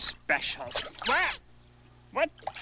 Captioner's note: quack